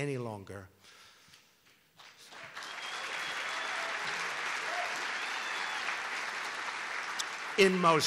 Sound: applause

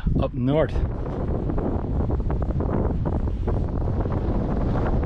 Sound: wind blowing

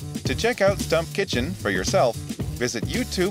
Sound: voiceover

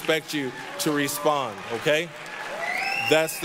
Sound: applause

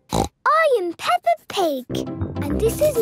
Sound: snorts

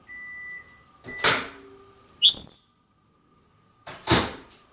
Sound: Einstein make beep noise

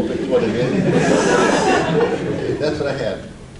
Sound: audience laughs

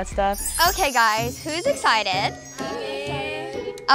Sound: bells chiming

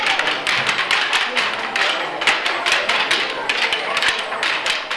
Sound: sticks clacking

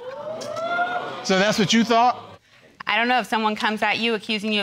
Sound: audience exclaiming

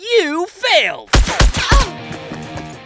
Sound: bullets whooshing; woman gasps

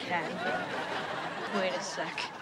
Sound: audience laughs

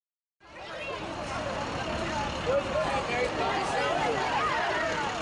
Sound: students talking

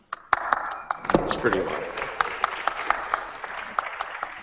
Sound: applause

